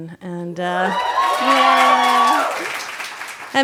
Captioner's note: audience cheers